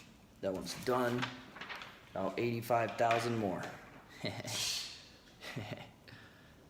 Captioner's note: laughs